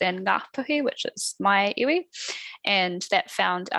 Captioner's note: non-english speech